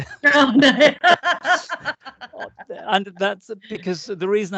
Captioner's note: laughing